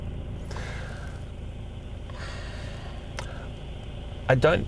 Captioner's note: Jami-Lee sighs